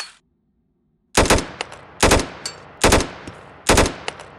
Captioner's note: gunfire